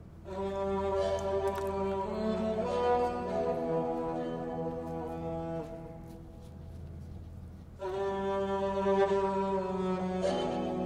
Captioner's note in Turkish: Takırtı ve Müzik Sesi